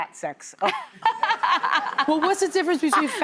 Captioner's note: laughing